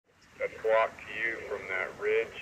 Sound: sound of firefighter talking over a radio

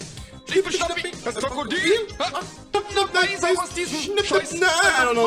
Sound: non-english speech

